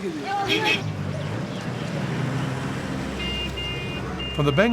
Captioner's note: chatter; horns honking